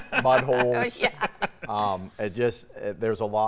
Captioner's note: laughs